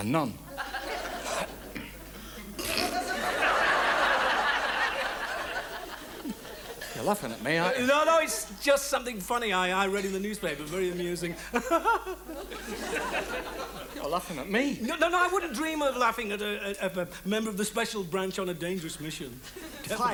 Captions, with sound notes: - A nun. (Wise laughs) (audience laughs) - You're laughing at me, aren't you? - No, no, it's just something funny I read in the newspaper. Very amusing. (Wise fakes laughter) - You're laughing at me. - No, no, I wouldn't dream of laughing at a member of the special branch on a dangerous mission.